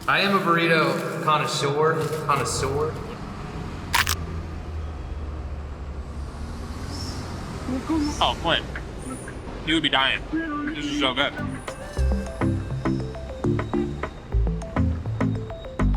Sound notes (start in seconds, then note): 3.9 burrito crunching; 11.4 smooth music